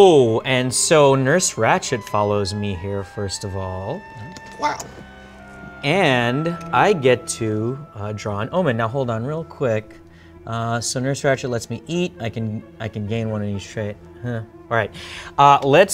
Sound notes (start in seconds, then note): none